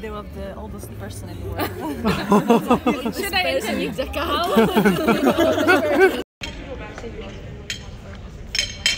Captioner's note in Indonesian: Tertawa